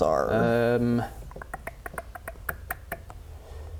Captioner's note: the clickity-clack of horses